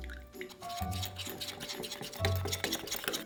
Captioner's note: whisking